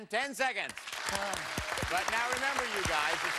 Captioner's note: cheers and applause